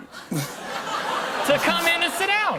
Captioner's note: laughter